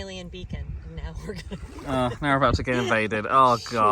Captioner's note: chuckles